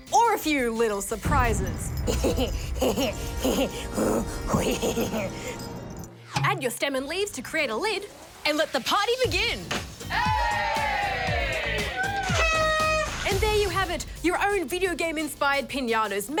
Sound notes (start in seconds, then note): 2.0 laughs wickedly; 10.1 cheering; 11.8 honks party horn